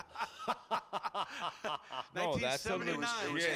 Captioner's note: laughing